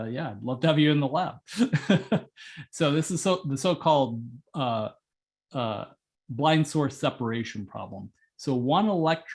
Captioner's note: laugh